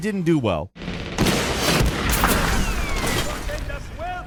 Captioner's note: explosion booming; gunshots booming